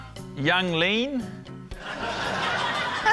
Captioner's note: laughter